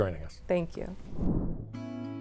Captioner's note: graphics whooshing; gentle music